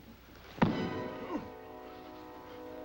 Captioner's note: thudding; dramatic music